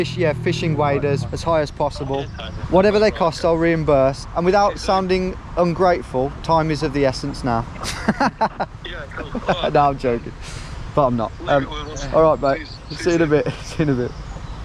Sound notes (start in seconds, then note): 7.7 laughs